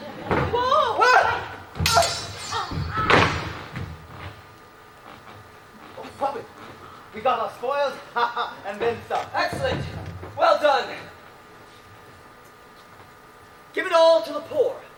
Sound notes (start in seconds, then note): 0.7 gasps, sword clash